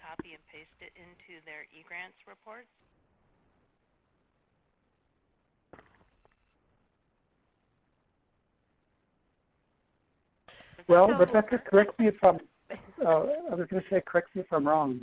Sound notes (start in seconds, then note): 3.6 pause